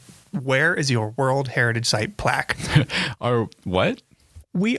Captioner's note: laughs